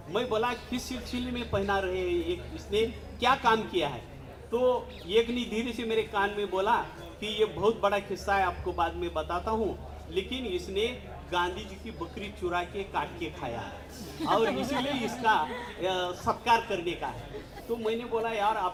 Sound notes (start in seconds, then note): 13.9 laughing